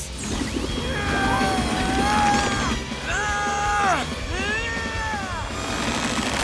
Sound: grunting

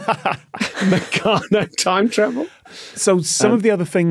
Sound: laugh; laughs

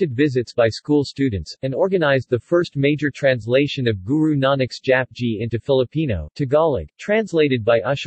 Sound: Tagalog

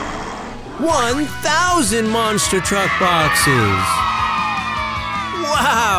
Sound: cheers

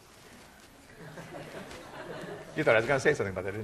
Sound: class laughing

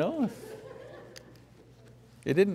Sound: audience laughs

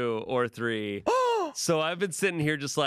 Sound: gasps

